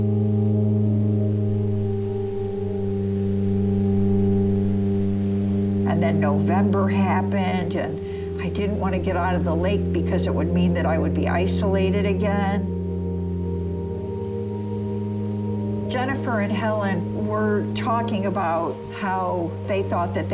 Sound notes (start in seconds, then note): 1.2 leaves rustling; 2.5 wind blowing